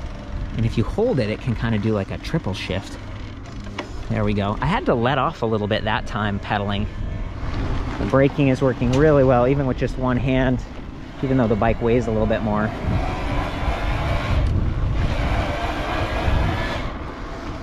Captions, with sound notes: And if you hold it, it can kinda do like a triple shift. There we go. I had to let off a little bit, that time pedaling. Braking is working really well, even with just one hand. Even though the bike weighs a little bit more. (whirring)